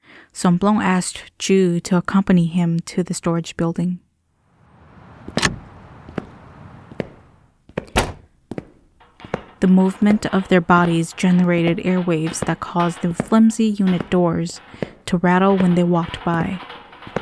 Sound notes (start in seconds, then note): 4.5 door open; 6.3 footsteps